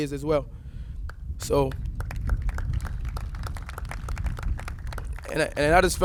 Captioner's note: applauses